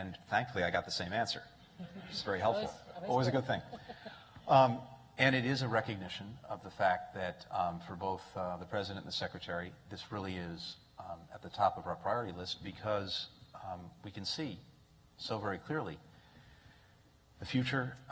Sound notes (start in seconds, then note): 1.7 laughter